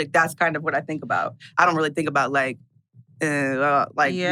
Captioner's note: stammers